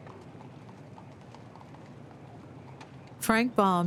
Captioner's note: horse hooves clomping